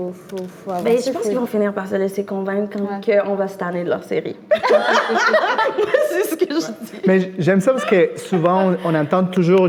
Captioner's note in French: rires